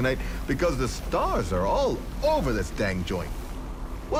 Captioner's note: wind howling